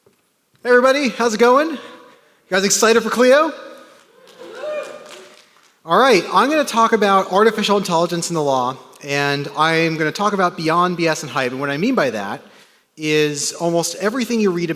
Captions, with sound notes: - Hey everybody, how's it going? You guys excited for Clio? (audience cheers) Alright, I'm gonna talk about artificial intelligence in the law. And I'm gonna talk about beyond bs and hype. And what I mean by that, is almost everything you read